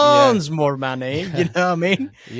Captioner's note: laughs